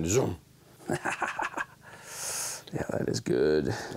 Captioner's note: laughs